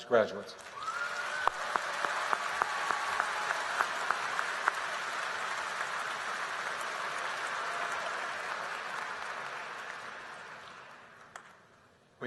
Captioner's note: applause